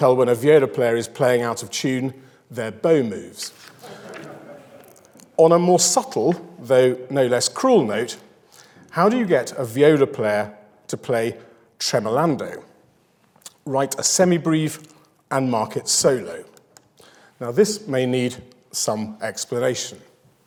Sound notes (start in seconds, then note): 3.8 audience laughs